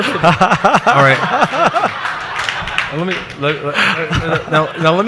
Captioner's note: audience laughs